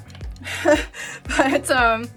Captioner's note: chuckles